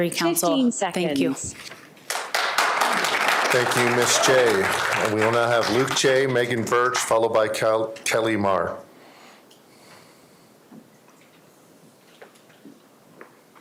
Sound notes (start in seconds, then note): 5.7 applause